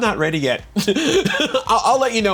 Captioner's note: laughs